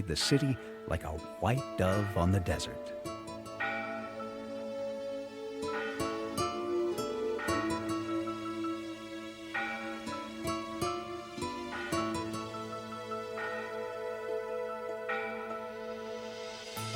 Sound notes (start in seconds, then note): 3.6 mission bell ringing; 8.9 light orchestra music